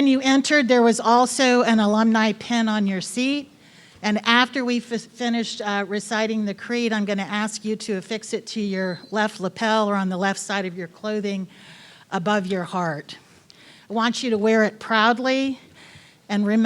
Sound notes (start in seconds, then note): none